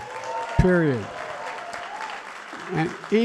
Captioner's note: applause